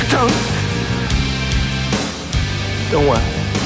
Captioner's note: gasping